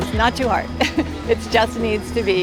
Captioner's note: chuckles